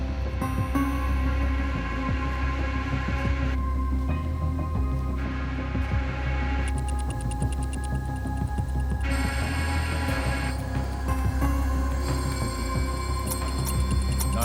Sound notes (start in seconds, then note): 5.1 machine whirring; 6.7 numbers clicking; 9.0 whirring continues; 13.3 numbers clicking